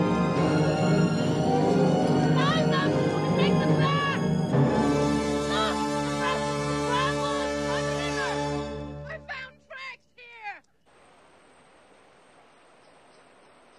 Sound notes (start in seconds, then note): 0.3 slow, tense orchestral music; 2.3 guards yelling